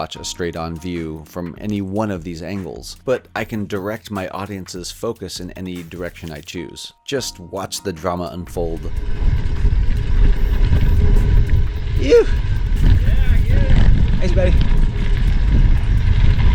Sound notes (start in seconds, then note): 10.2 tires rolling on dirt